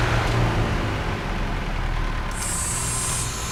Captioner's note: machinery shuts down